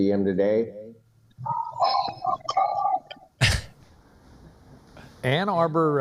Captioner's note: phone ringing